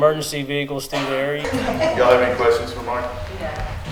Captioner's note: attendees chuckling